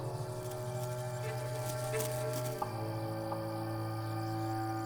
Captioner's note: scorpion rustling